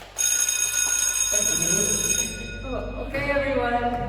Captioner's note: bell ringing